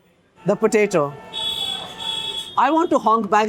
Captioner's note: cars outside honking